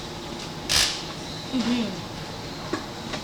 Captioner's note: speaking in Mandarin